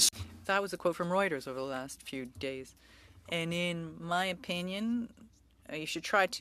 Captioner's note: speaking French